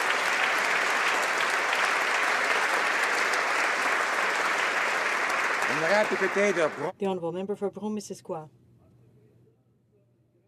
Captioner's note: applause